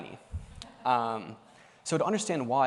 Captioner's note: laughter